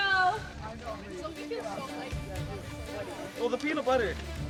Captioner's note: quiet chattering